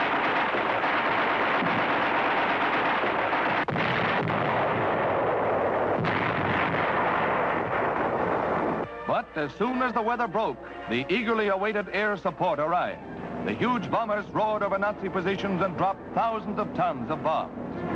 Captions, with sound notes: (grenade exploding) But as soon as the weather broke, the eagerly awaited air support arrived. The huge bombers roared over Nazi positions and dropped thousands of tons of bombs.